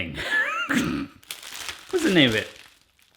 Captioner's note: laughs